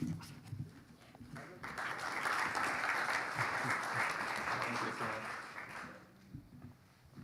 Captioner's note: audience applauding